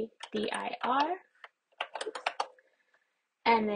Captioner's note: keyboard types